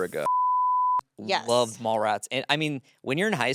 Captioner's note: beep